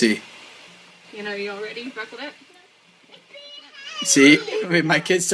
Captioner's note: shouting